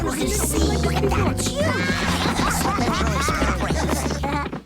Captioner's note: excited chattering, laughing